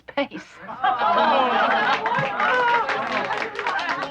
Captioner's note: cheering